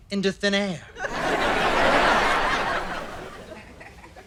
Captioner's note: audience laughter